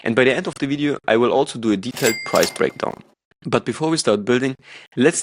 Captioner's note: cash register ringing